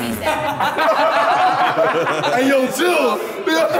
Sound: Sidemen laughing

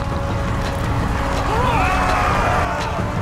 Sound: screaming

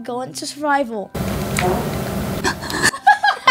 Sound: distant farting; laughing

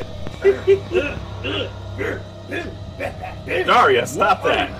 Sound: rhythmic grunting

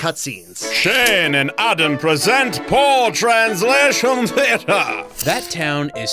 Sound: English accent

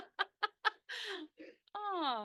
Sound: laughter

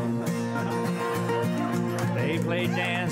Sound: audience laughing

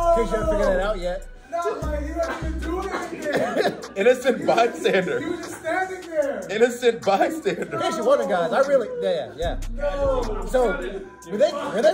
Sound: laugh

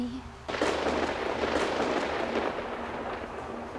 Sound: thunder

